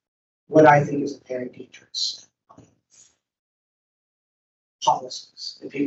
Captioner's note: microphone cuts out